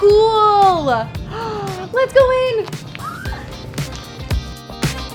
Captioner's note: gasps; squeals; disco music